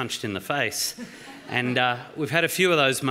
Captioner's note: laughter